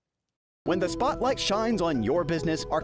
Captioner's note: voice-over